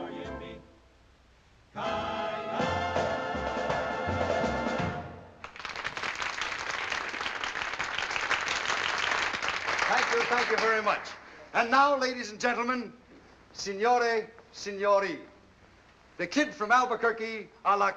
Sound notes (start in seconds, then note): 4.1 song ends; 5.4 applauding